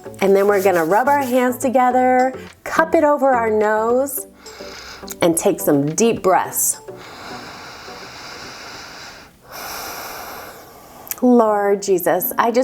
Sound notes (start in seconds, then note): 4.3 inhaling; 9.5 exhales